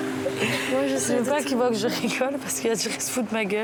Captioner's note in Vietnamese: cười vì anh ấy buộc phải làm vậy